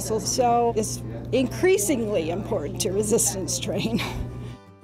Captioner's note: laughs